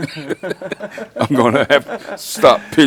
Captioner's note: laugh